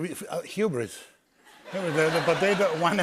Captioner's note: laughter